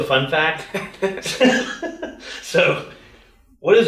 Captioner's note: both laugh